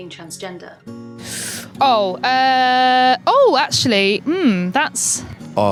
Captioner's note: sucks in air